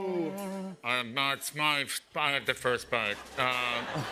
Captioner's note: humming; nasally; laughter